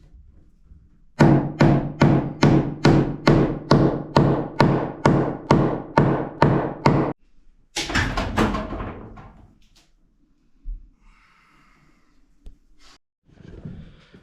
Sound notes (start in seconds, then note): 7.8 banging